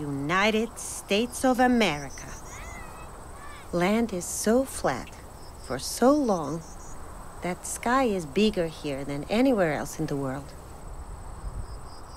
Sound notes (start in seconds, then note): none